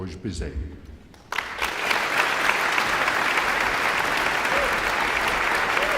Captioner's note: audience applauding and cheering